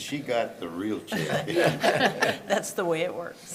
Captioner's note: laughter